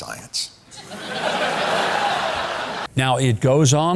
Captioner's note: audience laughing